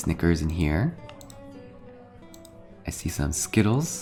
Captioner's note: mouse clicks